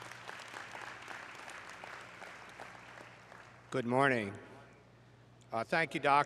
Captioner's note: applause